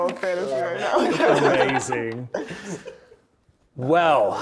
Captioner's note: players laughing